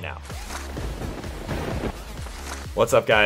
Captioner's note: electronic music; thunderbolts strike